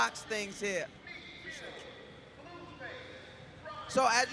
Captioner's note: announcer speaking